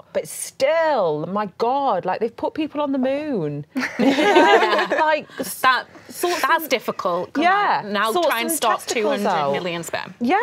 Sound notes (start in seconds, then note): 3.8 laughing